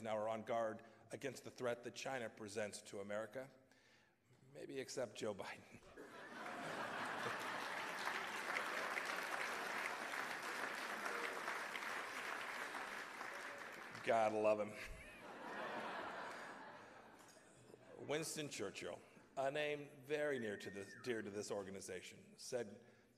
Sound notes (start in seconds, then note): 5.9 laughter and applause; 15.4 laughter